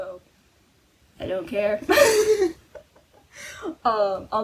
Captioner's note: laughing